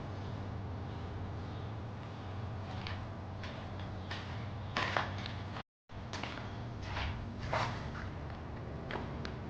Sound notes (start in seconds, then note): 1.7 walking